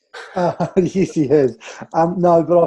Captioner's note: chuckling